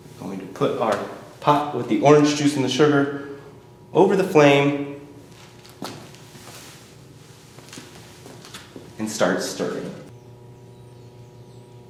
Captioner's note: sound of footsteps and clanging of metal pot; footsteps; sound of birds chirping